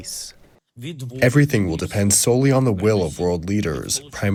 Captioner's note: through translator